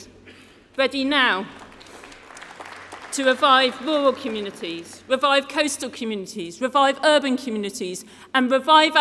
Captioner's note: applause